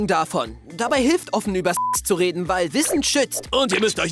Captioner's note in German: beep